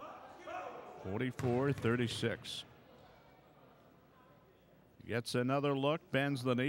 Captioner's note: ball pounding